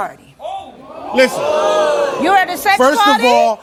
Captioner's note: audience exclaims in disbelief